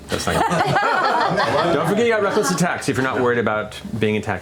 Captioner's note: laughter